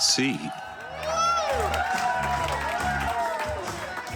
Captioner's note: crowd cheering